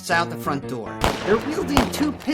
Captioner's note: guns shooting